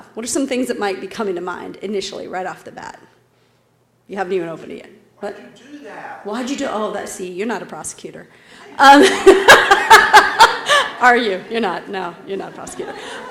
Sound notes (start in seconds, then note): 8.7 laugh